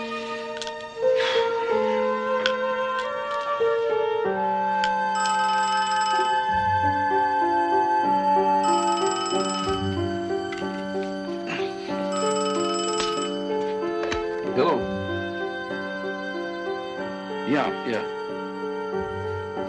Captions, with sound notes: (phone ringing) - Hello? Yeah, yeah.